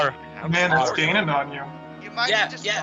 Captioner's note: uncontrollable laughing continues; nonchalantly; uncontrollable laughing continues